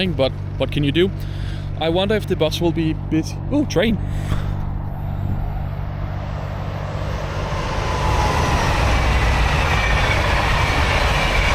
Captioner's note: train zooming past